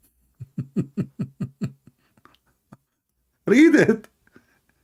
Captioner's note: Ketawa